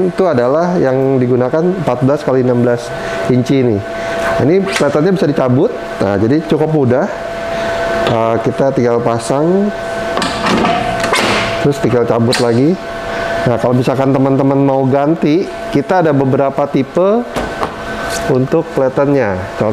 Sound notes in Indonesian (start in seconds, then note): 4.2 suara platen dicabut; 7.5 suara platen dipasang; 11.9 suara platen dicabut